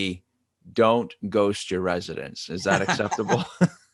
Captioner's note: laughing